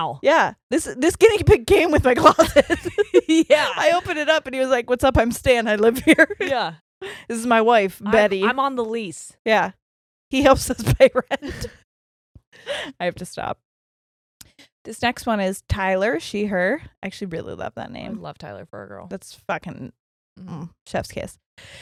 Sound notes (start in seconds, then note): 11.5 giggles quickly